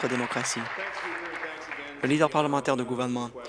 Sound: applause

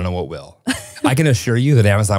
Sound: chuckles

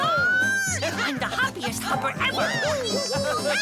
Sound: cheer and laugh

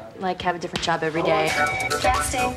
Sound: upbeat music; phone rings

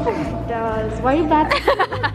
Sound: laughing

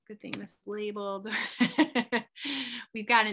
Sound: laughs

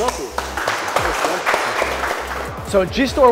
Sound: applauds

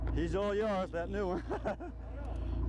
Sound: laughter

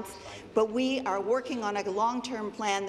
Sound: none

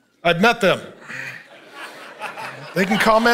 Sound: congregation laughing

